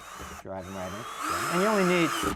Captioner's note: electric drill whirring